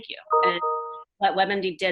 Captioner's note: computer bell